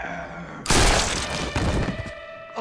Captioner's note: snarling; gunshot